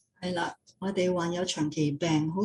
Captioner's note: non-english speech